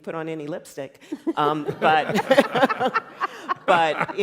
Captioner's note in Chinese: 笑聲